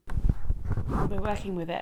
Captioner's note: mic shuffling